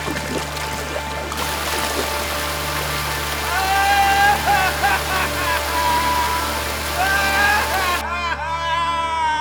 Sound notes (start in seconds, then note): 3.4 yelling and laughing